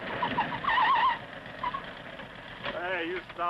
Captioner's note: tires screeching